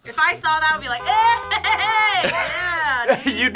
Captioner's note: horn honking